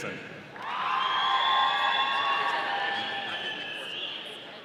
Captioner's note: audience cheering